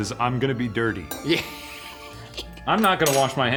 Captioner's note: laughing